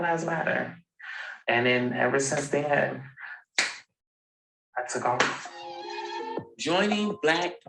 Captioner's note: clap